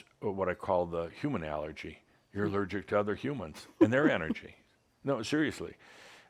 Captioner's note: giggles